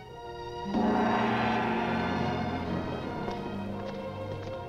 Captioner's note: gong resounds